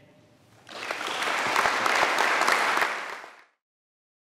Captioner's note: audience claps